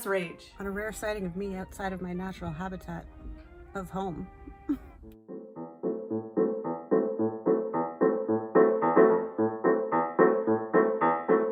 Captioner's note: laughs